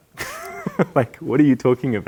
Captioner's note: laughing